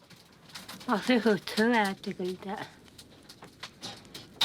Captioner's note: foreign spoken audio